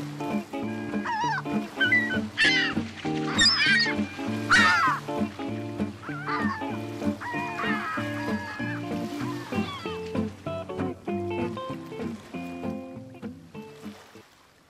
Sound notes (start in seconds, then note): 1.0 animals vocalising